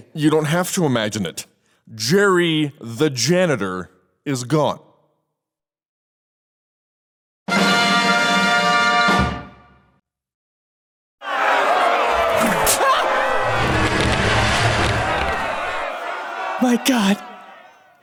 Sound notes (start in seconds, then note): 7.8 triumphant music; 11.2 booing